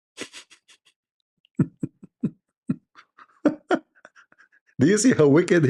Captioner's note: Ketawa